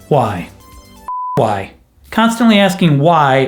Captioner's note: beep